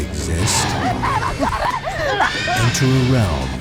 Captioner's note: screaming